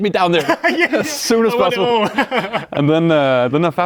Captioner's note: laughs